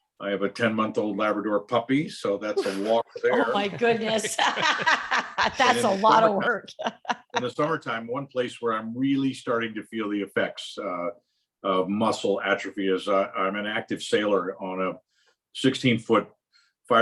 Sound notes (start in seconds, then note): 2.5 laugh